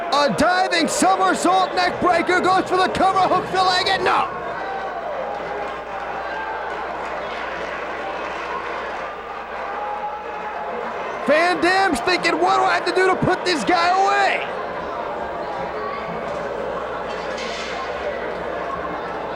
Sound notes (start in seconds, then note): 4.8 spectators cheering